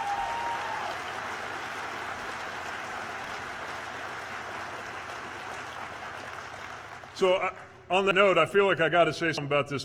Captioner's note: cheers/applause